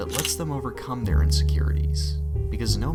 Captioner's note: camera shutter